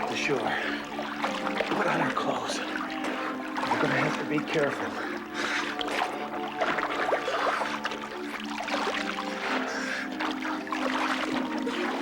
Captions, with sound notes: Let's get to shore. Put on you clothes. You're gonna have to be careful. (water splashing) (group breathing heavy)